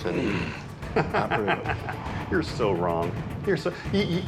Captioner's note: laughs